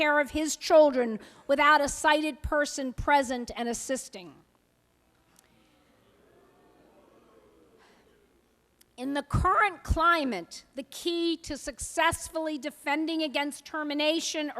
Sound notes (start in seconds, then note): 4.4 audience response